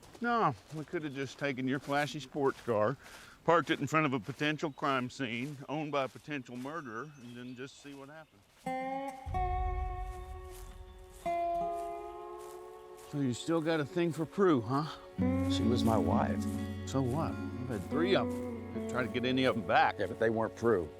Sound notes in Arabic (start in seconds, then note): 8.7 موسيقى ريفية بطيئة; 10.3 خطوات